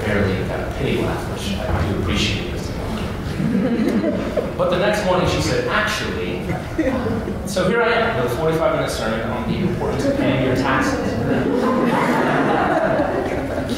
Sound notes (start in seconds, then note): 3.3 laughter; 11.2 laughter